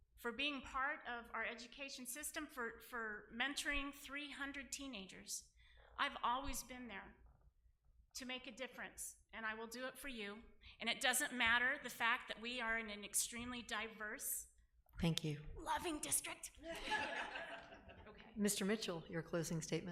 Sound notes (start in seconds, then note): 16.6 laughing